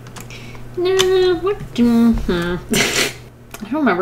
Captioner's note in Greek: Γέλια